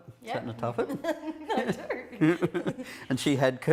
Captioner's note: laughing